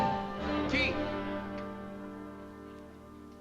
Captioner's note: non-english speech